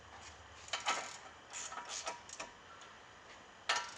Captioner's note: wrench creaking